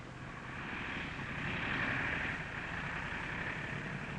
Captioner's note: airplane whirring